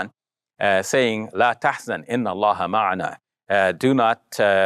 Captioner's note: foreign language